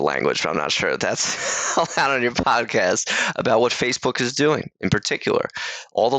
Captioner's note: laughs